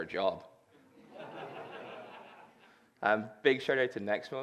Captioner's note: laughter